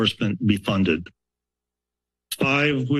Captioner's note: pause